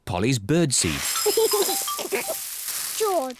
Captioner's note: giggles